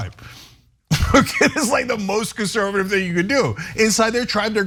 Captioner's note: laugh